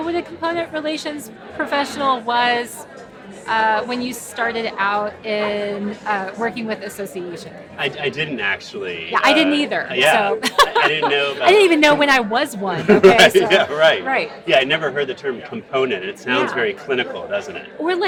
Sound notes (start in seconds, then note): 10.3 giggles; 12.7 laughing